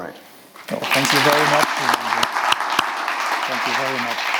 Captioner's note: audience applauds